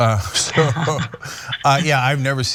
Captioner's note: laugh